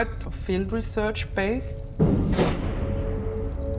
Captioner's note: thump whoosh